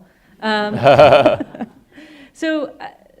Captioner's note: laughing